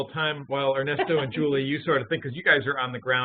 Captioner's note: laughing